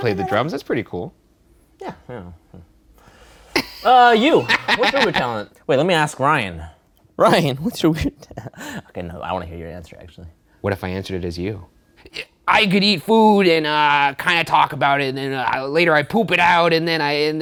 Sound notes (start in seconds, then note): 3.6 laughing